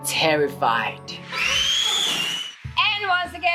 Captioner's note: screeches